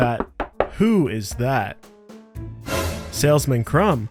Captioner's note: door tapping